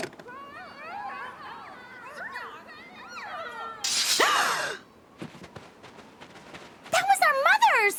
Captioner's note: muffled grunting